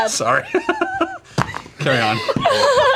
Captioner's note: laughs